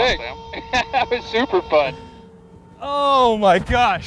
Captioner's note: laughs